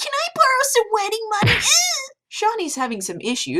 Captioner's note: Shauni punching, Eddie whining